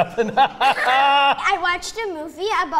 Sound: laughs

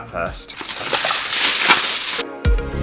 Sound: tin Foil Rattling

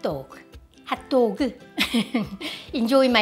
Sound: laughter

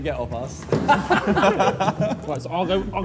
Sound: Sidemen laughing

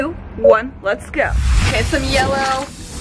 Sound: paint spraying

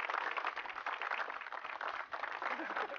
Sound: applause

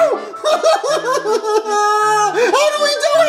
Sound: cries

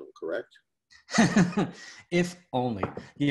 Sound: laughs

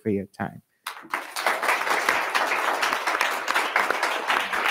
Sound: attendees clapping

